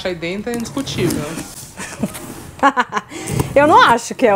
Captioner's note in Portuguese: risos